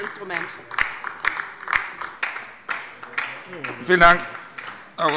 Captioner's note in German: Beifall bei der LINKEN